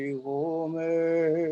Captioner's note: chanting